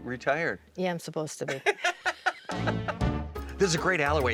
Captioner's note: both laughing